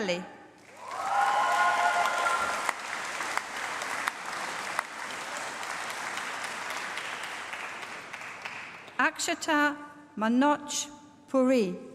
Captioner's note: applause